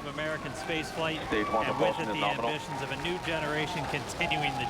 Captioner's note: applause